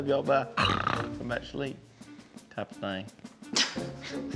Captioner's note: snores; chuckles